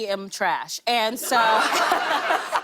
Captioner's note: laughter